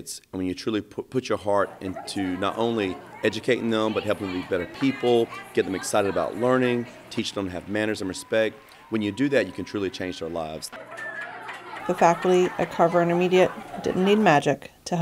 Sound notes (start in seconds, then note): 10.8 chatter